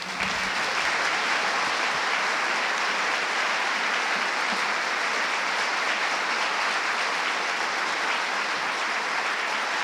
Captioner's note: audience applauding